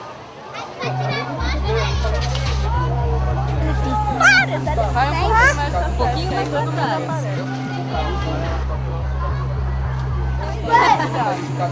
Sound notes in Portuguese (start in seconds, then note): 3.1 Crianças conversam; 10.2 Risadas